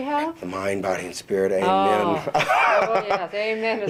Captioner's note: laughs